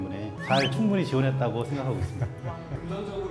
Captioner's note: tee hee